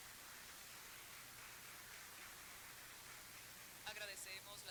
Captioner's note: applause